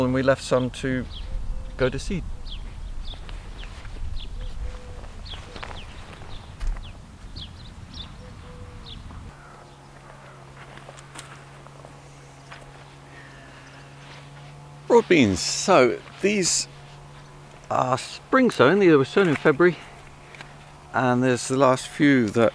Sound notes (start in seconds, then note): 3.1 birds chirping; 3.1 doves cooing